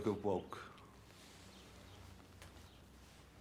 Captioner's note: birds chirping